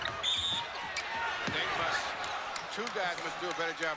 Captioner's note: whistle blows